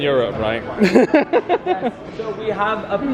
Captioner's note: laughing